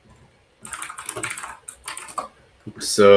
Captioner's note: keyboard clacks